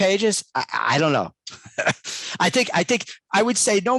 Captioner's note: laughs